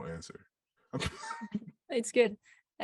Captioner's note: laughs